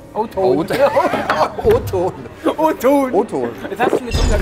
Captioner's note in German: lachend